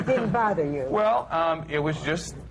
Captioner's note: laughter